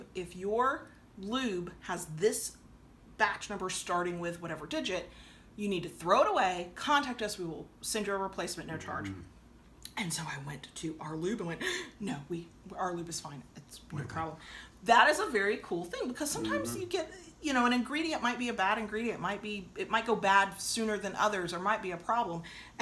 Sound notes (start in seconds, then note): 11.7 gasps